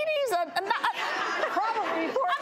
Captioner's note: laughing